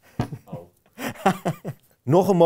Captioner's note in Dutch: gelach